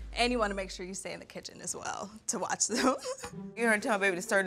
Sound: laughs

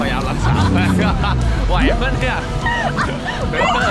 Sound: laughs

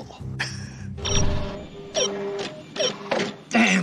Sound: chuckles; beeping

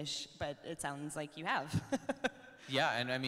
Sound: laughs

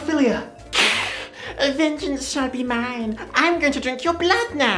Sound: hiss

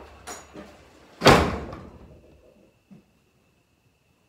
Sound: door slamming

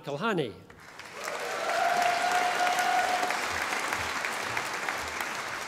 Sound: audience applauding

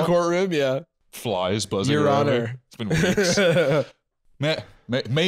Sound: laughs

